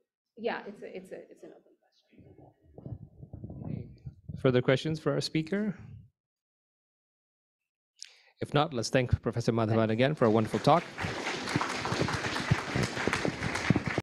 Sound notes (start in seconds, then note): 9.8 applause